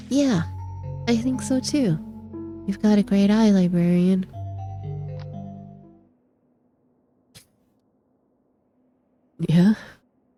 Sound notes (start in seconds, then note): none